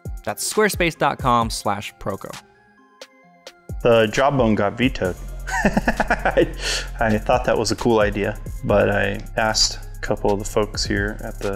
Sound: laughter

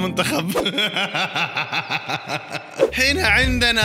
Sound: laughter

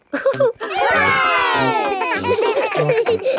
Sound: chuckles; laughing

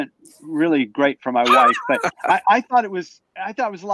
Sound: laughs

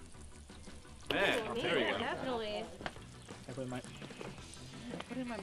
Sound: indistinct chatter

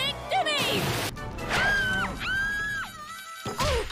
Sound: screams in Lititz Bike Race

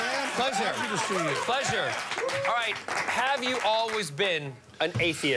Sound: applause

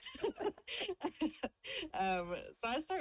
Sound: both laugh

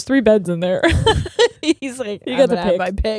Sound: laughing

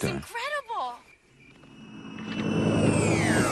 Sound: whooshing sound

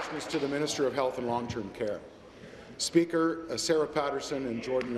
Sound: applause

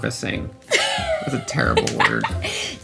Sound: laughs softly

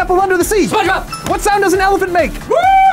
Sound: bell rings

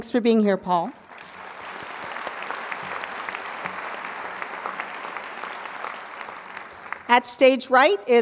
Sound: applause

